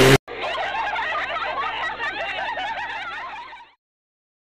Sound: laughs outside

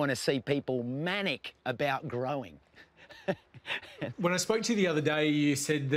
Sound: laughs

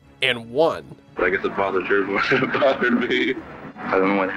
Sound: laughs

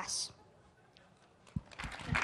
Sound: applause

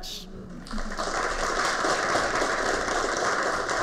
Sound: applause

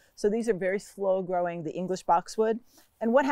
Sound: none

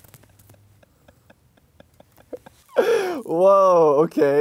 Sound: he laughs

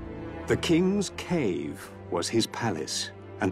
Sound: narrator reading on-screen text

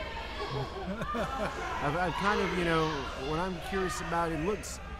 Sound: laughing

